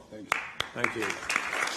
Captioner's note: applause